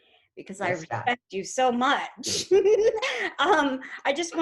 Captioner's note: giggles